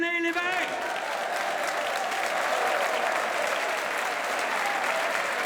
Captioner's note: audience cheers and applauds